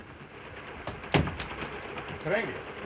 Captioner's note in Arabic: يغلق الباب; هارتز يتحدث لغة أجنبية